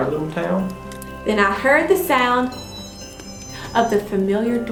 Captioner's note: chime